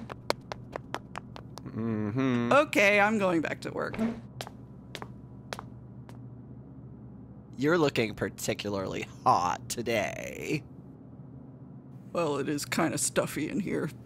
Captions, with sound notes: (fast footsteps fading away) Mmm hmm. Okay, I'm going back to work. (slower footsteps stomping off) You're looking particularly hot today. Well, it is kinda stuffy in here.